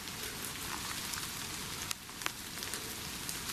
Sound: rain pattering

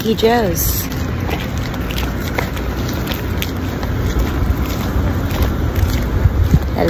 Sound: beach winds

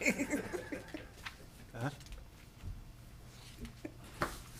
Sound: people chuckling

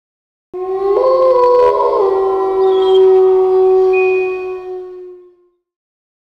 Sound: wolf howl

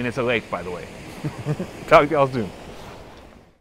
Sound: laughs

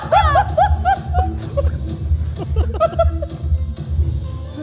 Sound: laughter

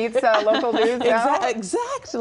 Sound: laughter

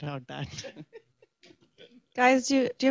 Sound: laughter

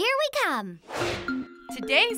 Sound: whoosh

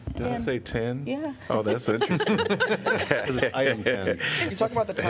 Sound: laughter

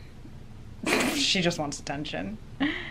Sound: laughs

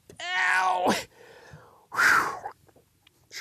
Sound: sighs

